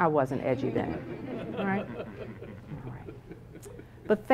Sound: laugh

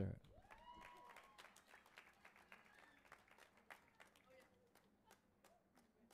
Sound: audience applauding and cheering

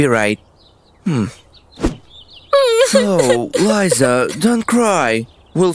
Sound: crying

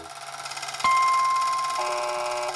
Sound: dings; buzzes

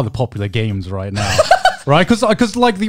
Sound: laughs

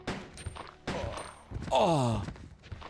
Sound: moans; zombie moans

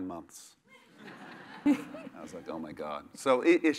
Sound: laugh

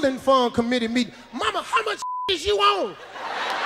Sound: beep; audience laughs

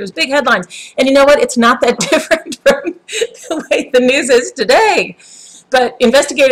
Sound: haha

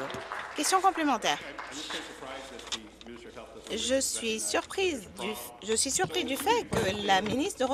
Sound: applause

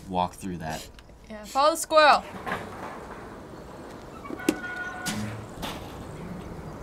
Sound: sheet creaking

